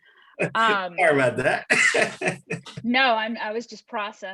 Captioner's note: laughs